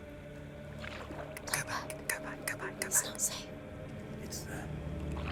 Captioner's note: whispering; whisper